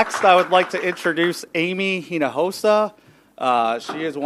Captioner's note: applause